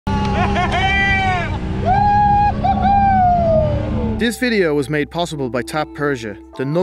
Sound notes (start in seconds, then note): 0.0 all cheering; 0.1 boat engine roaring